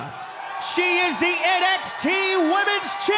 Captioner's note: cheers & applause